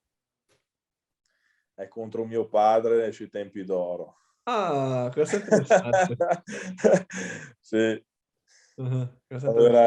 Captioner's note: laughs